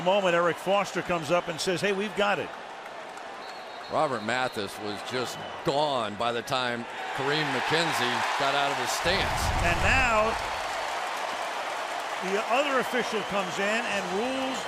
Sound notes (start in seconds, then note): 3.4 whistle; 8.0 cheering